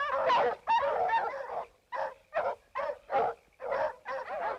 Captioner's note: dogs barking continues